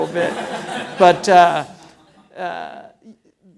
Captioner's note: laughing